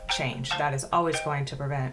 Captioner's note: phone ringing